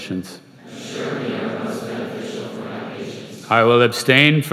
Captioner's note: crowd